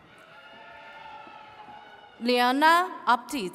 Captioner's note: attendees cheering